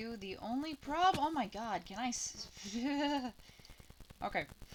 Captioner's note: shudders